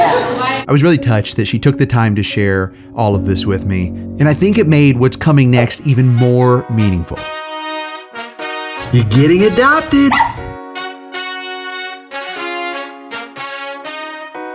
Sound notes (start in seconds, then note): 7.4 joyful music; 10.0 dog yips; 11.0 joyful music continues